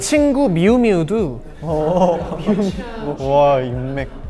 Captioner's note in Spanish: Jajaja